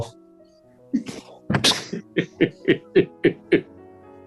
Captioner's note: chuckling